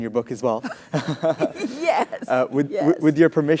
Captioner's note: laugh